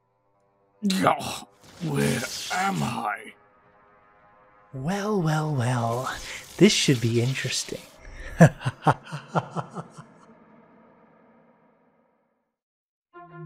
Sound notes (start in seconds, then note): 0.9 moans in pain